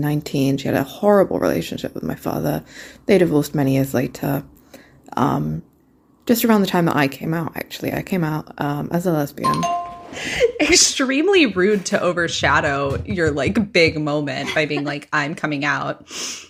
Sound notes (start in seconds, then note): 9.4 bingbong